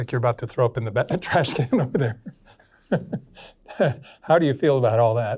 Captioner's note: chuckles